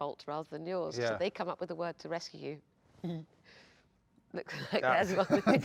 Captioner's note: laughs